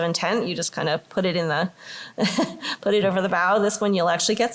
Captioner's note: laughter